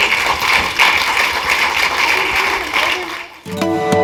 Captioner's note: applause